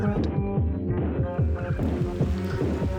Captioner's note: rain fades in